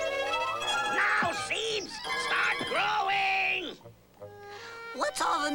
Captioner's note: shouting